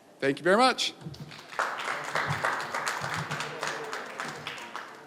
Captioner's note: applause